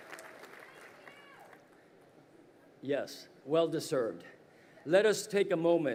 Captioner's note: crowd cheering